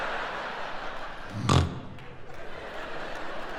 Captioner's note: laughing; snoring; laughing